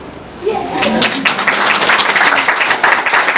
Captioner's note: applause